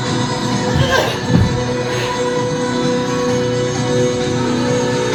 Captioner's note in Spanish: Gruñidos